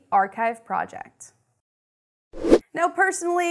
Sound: air rushes

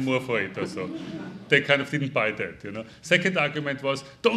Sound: audience chuckling

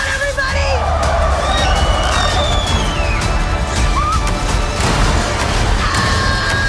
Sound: screaming

